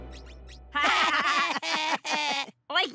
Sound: laughing

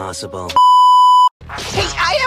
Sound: static sound beep

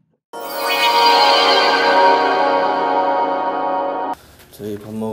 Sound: screen switching effect

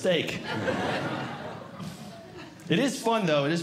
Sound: audience Laughing

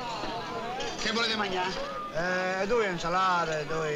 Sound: speaking italian

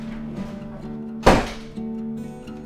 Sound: door closes

